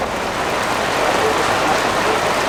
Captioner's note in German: Regenprasseln